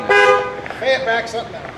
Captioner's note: horn honking